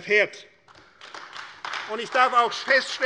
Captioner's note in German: Beifall AfD